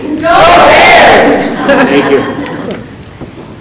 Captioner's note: group laughing